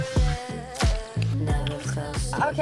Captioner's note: lips smacking